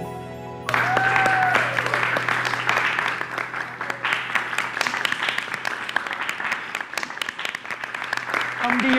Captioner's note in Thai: เสียงปรบมือและโห่ร้องยินดี